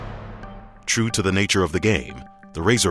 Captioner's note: orchestra music; voiceover